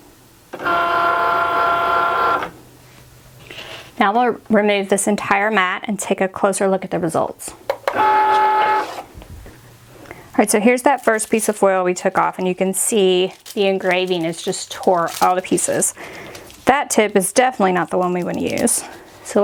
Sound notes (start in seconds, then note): 7.9 Cricut whirs